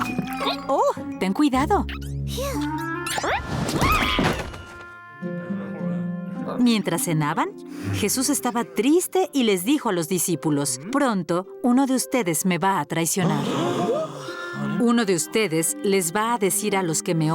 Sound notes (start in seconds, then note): 1.7 squeaking; 3.7 screams; 13.2 gasps